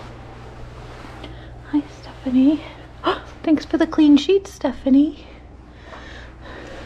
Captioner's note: gasp